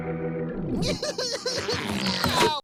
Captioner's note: sobbing